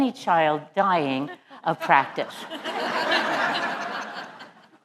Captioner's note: laugh